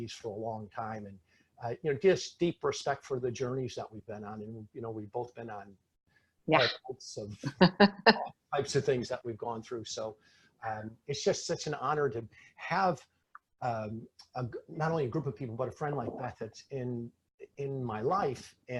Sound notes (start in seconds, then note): 5.7 speaking faintly; 7.6 laughing